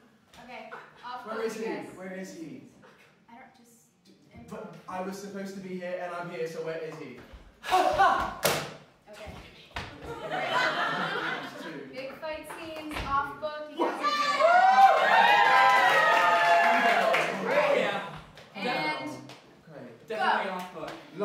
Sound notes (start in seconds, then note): 14.0 cheering and applause